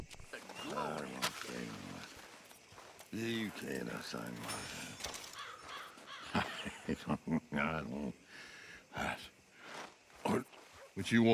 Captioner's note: laughs